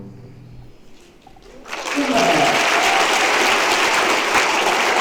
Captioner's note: applause